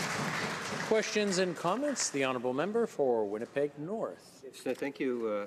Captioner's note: some Applause